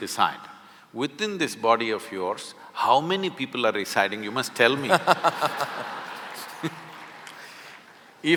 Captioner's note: laughter/Applause